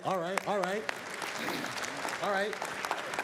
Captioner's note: applause